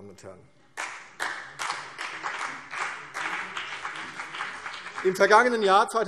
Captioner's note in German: Beifall CDU